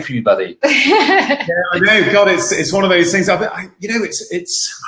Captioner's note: laughing